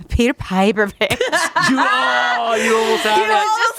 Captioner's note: everyone laughs